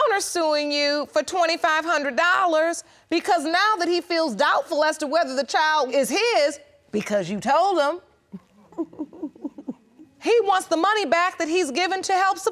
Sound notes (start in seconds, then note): 8.3 chuckles